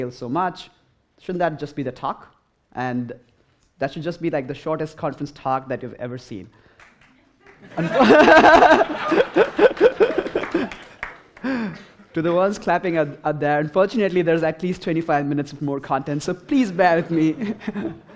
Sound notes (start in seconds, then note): 6.8 scattered applause; 10.1 laughter